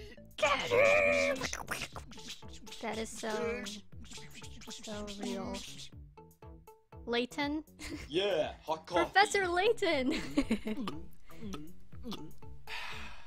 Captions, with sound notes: GET HIM! Bkobko- that is so...so real. Laten? *Giggles* Professor Layton! *Laughs*